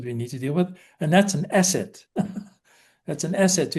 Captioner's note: laughs